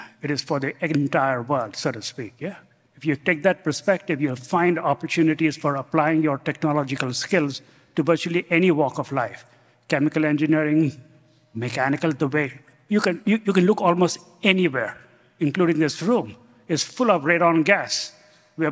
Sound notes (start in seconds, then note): none